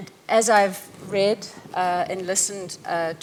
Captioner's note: none